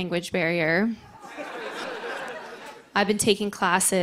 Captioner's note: laughter